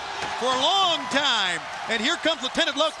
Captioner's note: crowd cheering